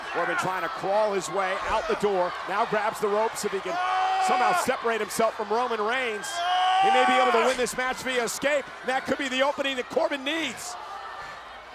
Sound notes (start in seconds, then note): 6.4 Corbin yelling